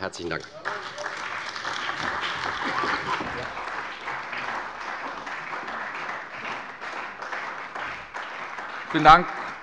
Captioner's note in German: Beifall bei der CDU und dem BÜNDNIS 90/DIE GRÜNEN